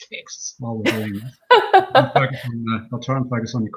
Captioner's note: laughing